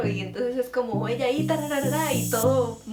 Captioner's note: rapid-fire talking